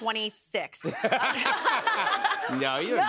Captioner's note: laughter